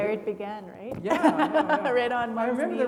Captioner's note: laughing